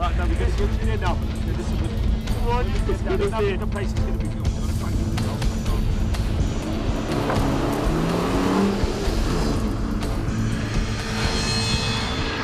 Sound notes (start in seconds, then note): 4.5 engine revving; 9.5 exciting music